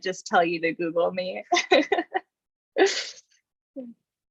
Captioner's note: laughs